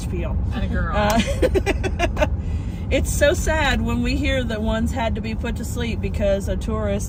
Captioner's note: laughter